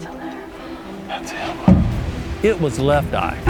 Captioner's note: whispering